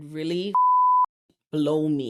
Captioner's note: beep